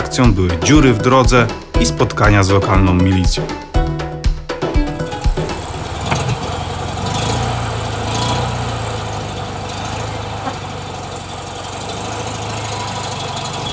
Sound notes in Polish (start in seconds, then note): 5.2 dźwięk jadącego samochodu